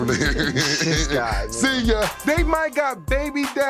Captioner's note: laughing